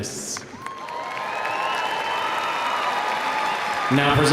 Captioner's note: audience applauding